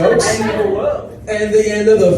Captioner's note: audience laughs